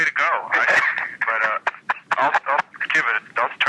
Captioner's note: laughing